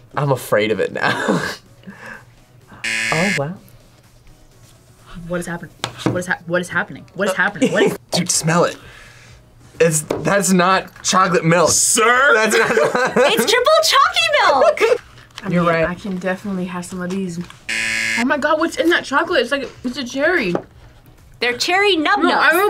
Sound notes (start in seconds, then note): 2.0 laughs; 2.8 buzzer rings; 12.4 laughs; 17.7 buzzer rings